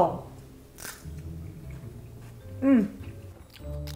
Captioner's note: dosa crunching